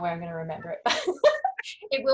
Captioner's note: laughing